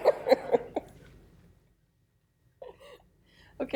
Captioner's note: laughter